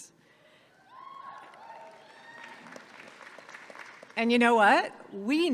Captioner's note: audience clapping and cheering